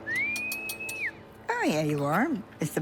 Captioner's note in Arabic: تصفّر